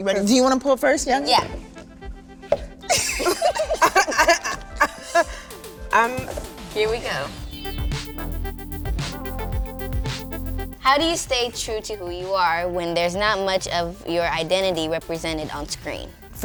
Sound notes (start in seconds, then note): 2.8 group laughs; 7.7 upbeat techno music